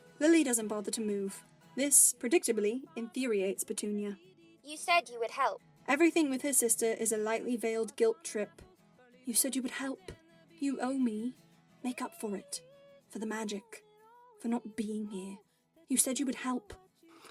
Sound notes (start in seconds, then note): none